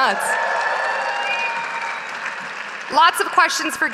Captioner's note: audience cheering